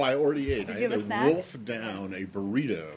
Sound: laughter

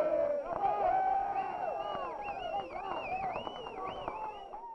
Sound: players cheering

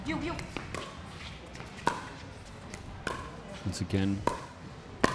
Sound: ball bouncing

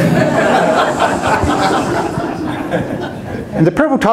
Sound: audience laughs

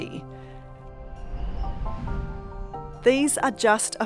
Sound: wind swooshing

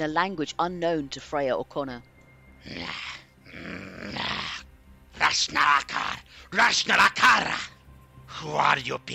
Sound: lizardfolk swearing

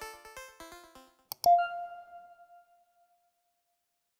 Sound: chime rings

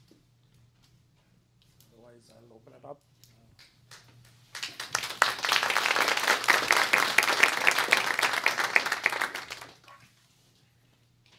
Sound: clapping

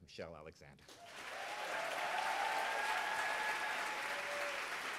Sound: audience applauds

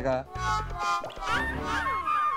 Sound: water dripping

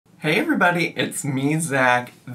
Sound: none

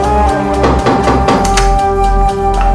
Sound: pounding on door

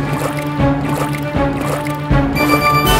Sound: bubbling sound

